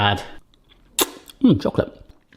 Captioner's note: lip smacking